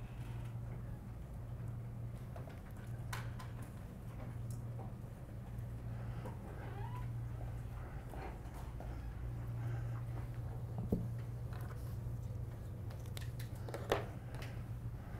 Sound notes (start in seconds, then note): 7.5 classroom ambient noises